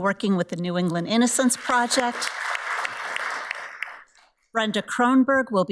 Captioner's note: audience applauds